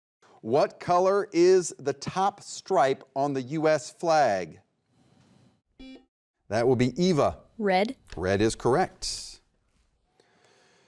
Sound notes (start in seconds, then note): 5.8 button beeping